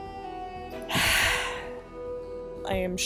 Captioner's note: sigh of relief